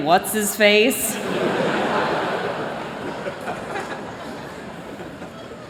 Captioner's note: laughter